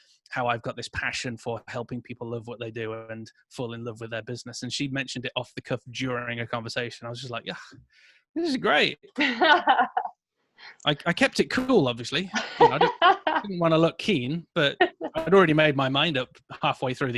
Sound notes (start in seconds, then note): 9.1 laughing